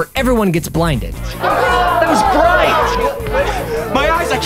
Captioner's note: groaning